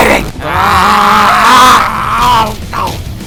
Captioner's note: collective screaming